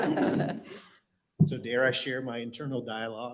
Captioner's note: laughter